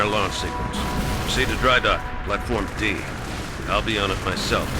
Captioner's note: radio